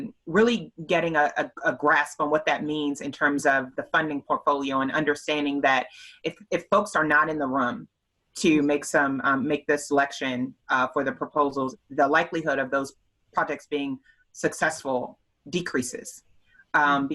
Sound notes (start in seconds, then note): none